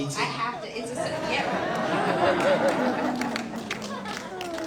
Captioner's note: audience laughs